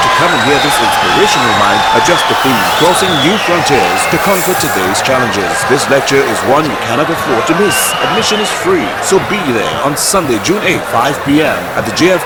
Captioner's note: wild applause and cheering for 22 seconds